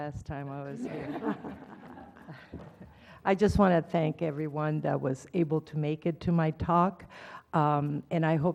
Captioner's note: laugh